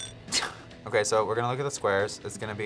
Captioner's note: alarm blares; clock ticks; laughs